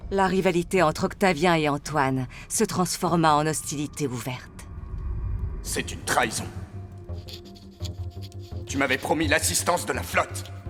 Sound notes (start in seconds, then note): 7.0 quill scraping